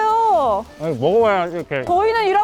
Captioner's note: chewing